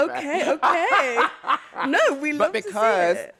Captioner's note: laughter